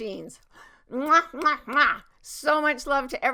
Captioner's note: makes kissing sounds